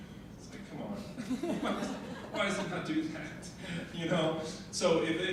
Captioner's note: audience laughing